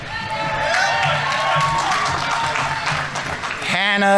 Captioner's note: audience applauding